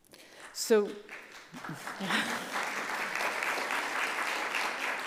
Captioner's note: audience applauds